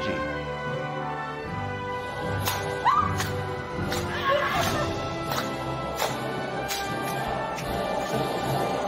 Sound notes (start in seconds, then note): 2.6 people clapping